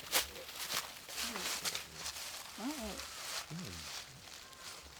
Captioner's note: leaves rustling; both murmuring